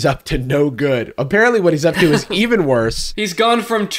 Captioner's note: laughs